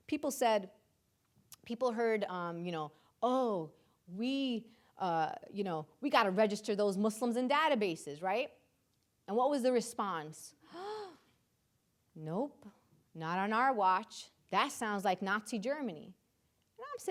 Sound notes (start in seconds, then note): 10.7 gasps